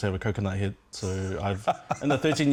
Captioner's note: laughs